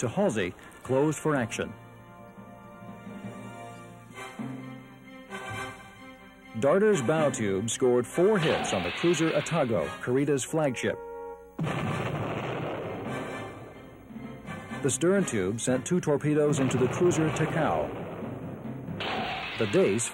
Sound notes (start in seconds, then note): 11.6 explosion